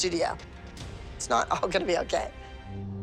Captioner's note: chuckling